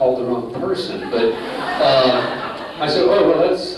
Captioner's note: laughter